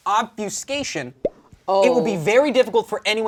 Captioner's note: pop sound